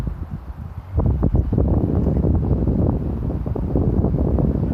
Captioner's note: wind blowing